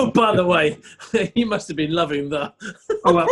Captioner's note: laughing